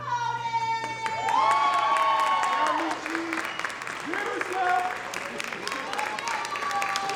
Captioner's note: audience cheering; audience applauding